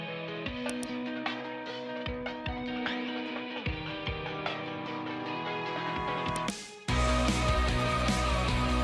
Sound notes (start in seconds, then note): 0.6 mouse clicks; 1.0 bright music; 6.3 mouse clicks; 6.8 bright music continues